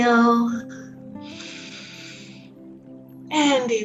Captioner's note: inhales